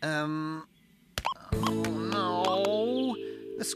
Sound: beep! Beep!

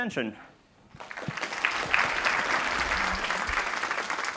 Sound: audience applauds

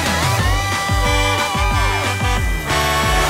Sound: truck horn

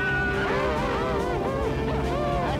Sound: exalted music; rescuers cheering

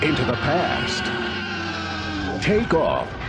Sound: T-Rex screaming

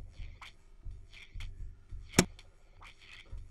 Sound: click

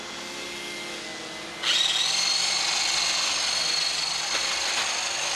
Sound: hedge trimmer whirring

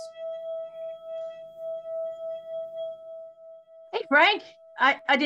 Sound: mysterious hum reverberating

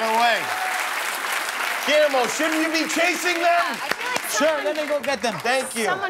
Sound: cheers and applause

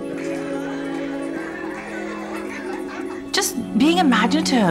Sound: children laughing - and playing

